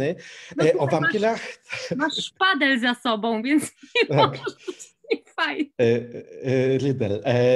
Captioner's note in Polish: śmiech